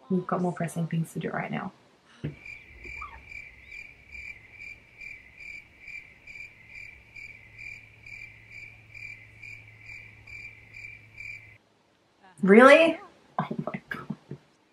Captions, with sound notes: we've got more pressing things to do right now. [crickets] Really?! Oh my god.